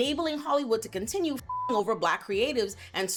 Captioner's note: beep